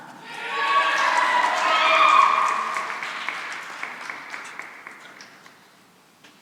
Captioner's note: cheering and applause